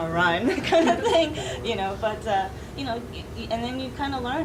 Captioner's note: laughing